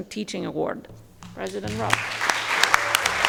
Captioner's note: audience applauding